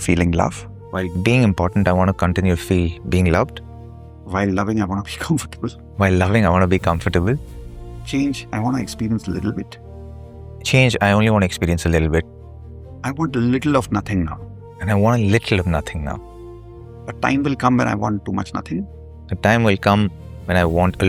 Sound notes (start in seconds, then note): none